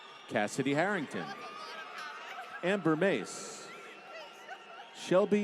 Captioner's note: applause; laughter